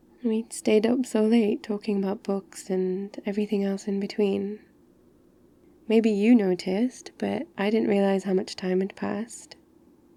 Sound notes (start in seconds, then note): none